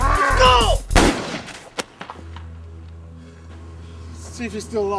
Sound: gun fires

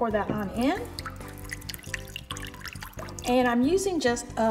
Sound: liquid trickling

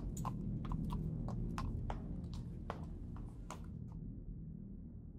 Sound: none

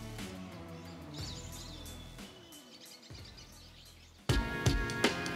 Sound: aves trinando

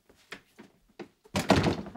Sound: door opens

